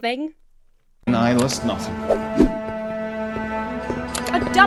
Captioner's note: mournful music; call to action whooshes